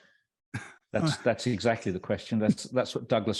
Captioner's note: laughs